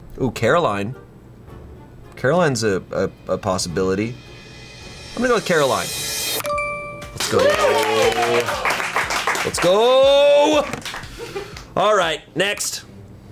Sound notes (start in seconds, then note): 7.0 colleagues applauding